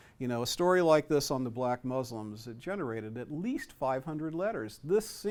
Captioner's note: none